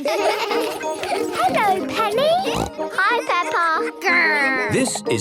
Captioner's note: laughter; snorting